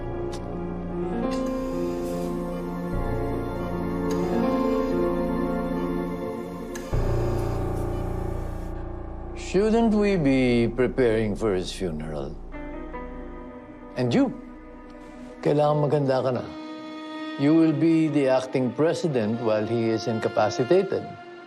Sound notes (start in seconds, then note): 1.6 grim music playing; 1.6 monitor beeping steadily